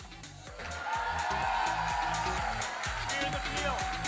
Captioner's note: audience cheering and applauding